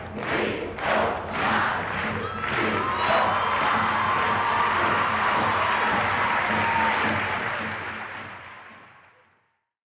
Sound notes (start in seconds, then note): 4.5 applause